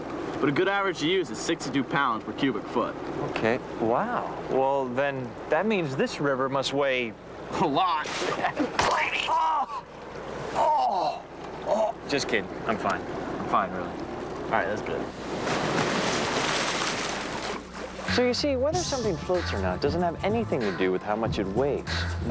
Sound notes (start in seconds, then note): 8.7 splat; 10.5 groaning